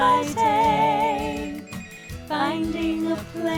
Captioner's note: phone ringing